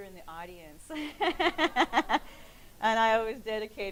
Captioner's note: laughing